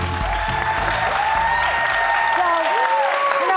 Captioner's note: audience cheering